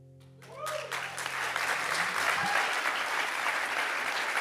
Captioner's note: audience applauding